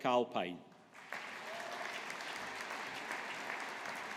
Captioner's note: audience applauding